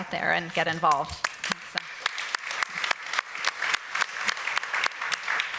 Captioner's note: applause